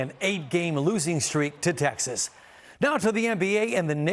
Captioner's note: cheers and applause